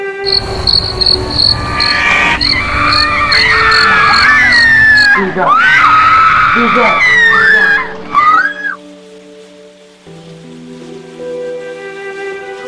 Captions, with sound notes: [ screaming ] - They're gone ! They're gone ! [ screaming ]